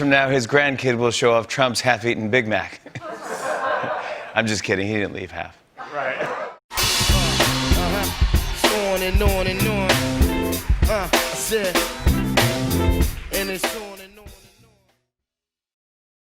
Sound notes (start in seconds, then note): 2.7 laughter